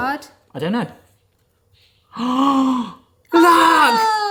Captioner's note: gasping